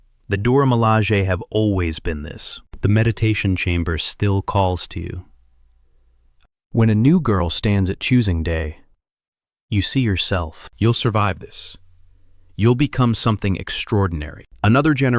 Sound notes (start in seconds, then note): 5.1 whispers